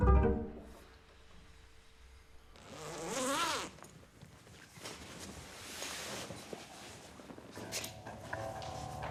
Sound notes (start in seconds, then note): 2.6 zipping